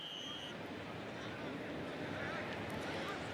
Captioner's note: whistle